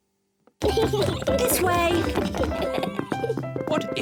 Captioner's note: kids giggling